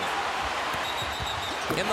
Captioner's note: whistle blows